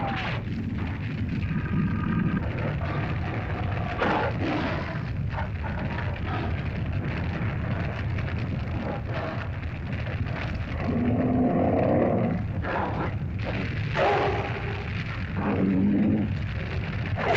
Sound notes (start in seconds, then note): 0.4 fire crackles; 1.6 lizard grumbles; 3.9 fire crackles; 3.9 lizard growls; 6.7 fire crackles; 10.7 lizard growls & bellows